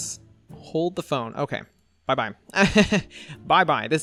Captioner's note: laughs